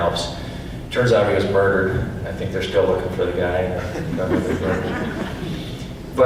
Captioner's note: audience laughs